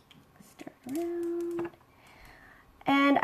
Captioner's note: speaks under breath